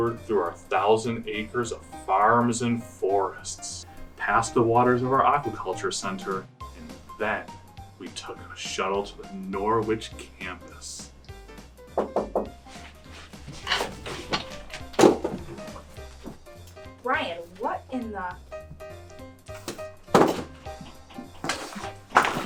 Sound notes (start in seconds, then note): 11.9 door knock; 19.8 jazz music